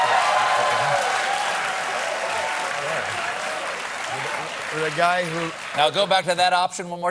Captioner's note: cheers and applause